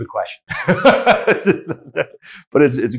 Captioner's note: laughing